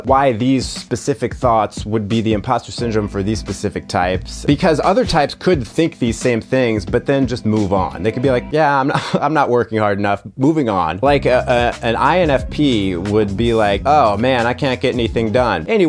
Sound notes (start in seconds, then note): 8.9 laughs